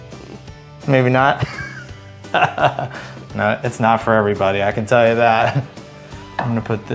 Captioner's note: laughs